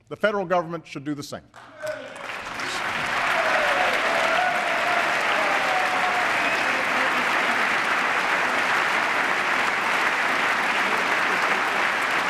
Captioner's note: applause